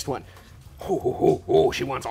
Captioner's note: growls